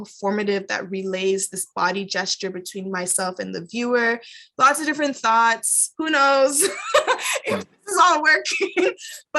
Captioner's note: laughs